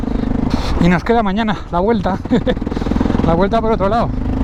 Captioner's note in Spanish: risas